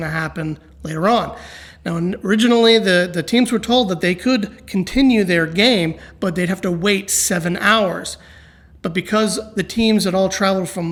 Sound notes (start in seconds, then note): none